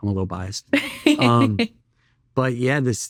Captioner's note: laughing